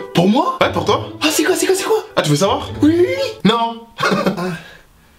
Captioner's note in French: rire